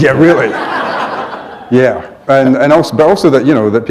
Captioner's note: laughter